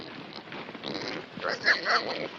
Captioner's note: snorting, squealing